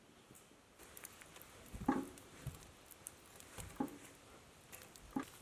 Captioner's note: fire crackling